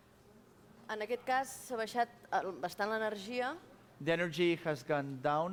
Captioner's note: non-english speech